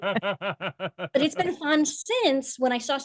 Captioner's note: laugh